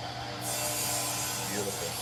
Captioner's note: metal grinding